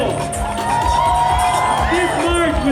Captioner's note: cheers